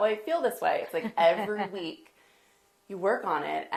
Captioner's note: laughs